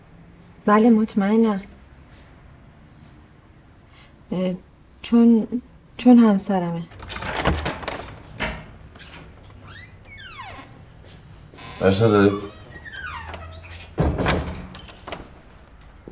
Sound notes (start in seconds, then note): 6.8 door opening; 13.4 door closing